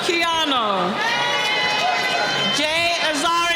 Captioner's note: cheering